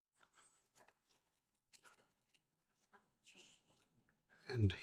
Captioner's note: silence